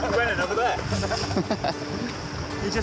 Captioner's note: chuckles